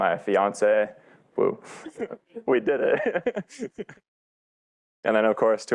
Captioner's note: laughs